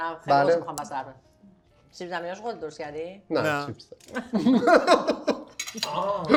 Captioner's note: laughs